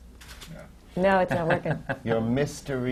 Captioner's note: laughter